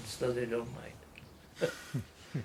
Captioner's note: laughs